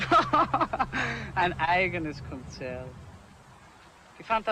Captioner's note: laughs